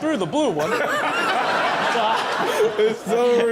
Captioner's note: audience laughs